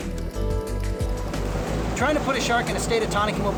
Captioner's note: waves roar